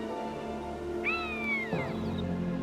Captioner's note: eagle squawks